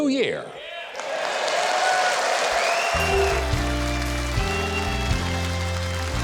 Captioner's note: audience cheering; upbeat music